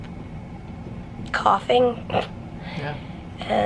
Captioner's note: snorts